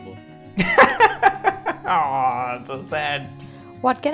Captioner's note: laughs